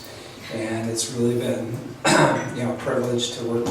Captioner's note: clears throat